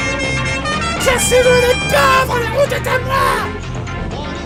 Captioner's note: horn